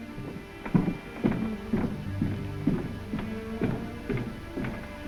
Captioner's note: footsteps descending